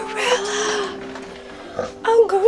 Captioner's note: gorilla snoring